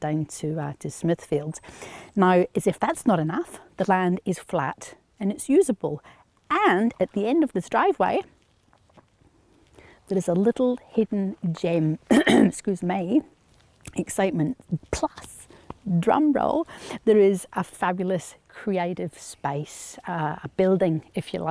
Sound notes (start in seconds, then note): 12.1 clears throat